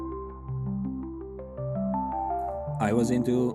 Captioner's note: narrator over music